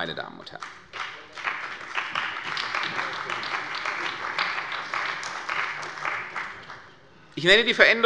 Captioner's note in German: Beifall bei der CDU und dem BÜNDNIS 90/DIE GRÜNEN